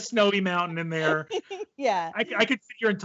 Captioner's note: laughs